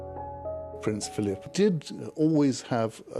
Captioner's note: voiceover